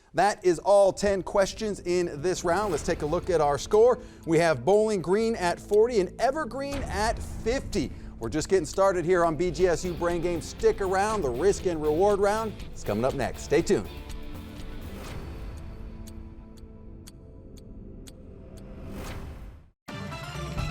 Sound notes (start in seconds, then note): 14.2 clock ticking; 19.9 upbeat music